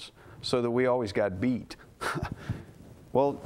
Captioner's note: laugh